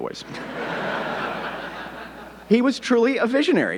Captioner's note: audience laughing